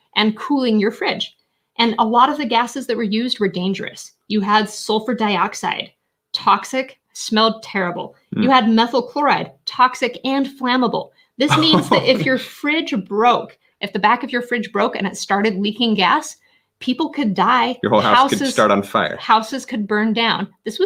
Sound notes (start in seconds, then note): 11.4 laughing